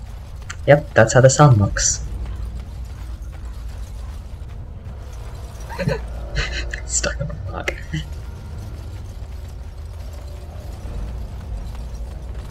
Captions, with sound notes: Yep, that's how the sun looks. [Laughter] Got stuck on a rock.